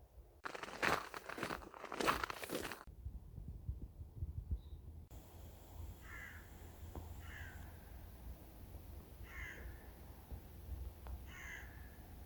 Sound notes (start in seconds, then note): 6.0 crow sound